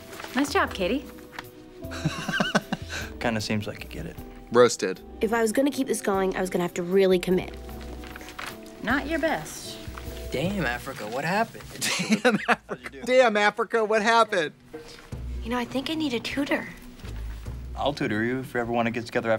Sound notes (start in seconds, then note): 1.9 Katya laughs